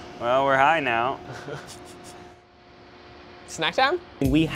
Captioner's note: giggles